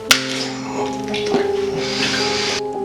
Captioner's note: mutters To Himself; whispers